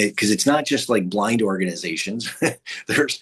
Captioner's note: chuckles